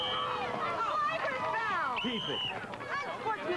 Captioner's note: whistle